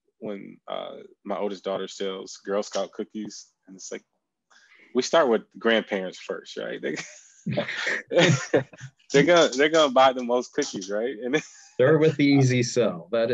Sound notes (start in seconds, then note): 7.5 laughing; 9.1 chuckles